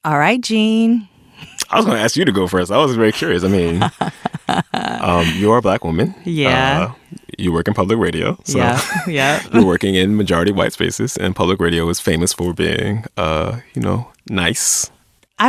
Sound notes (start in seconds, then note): 8.5 laughs